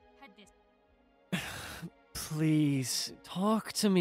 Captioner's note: sighs